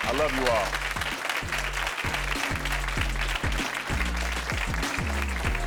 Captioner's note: audience cheering